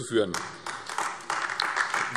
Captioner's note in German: Beifall AfD